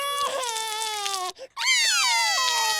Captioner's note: cries; both cry